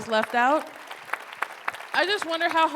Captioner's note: applause